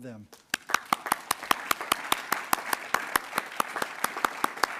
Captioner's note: attendees applauding